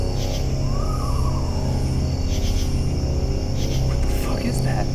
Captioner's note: ghostly trilling